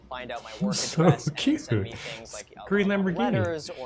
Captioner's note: laughs